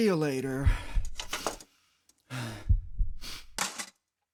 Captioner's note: heartbeats; heavy breathing; heartbeats; clank